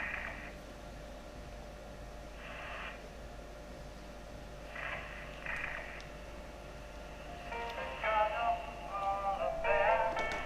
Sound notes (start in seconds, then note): 4.2 static crackling